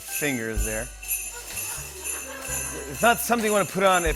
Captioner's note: laughter